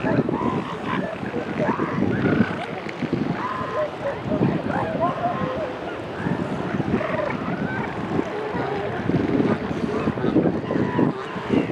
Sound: distant seal calls continue

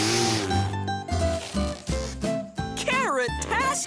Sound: blowing

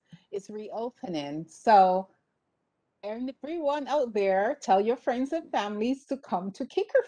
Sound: speaking faintly

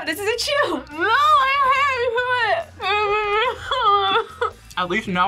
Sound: whimpers

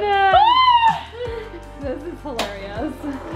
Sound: shrieking

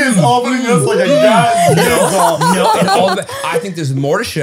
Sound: they all laugh

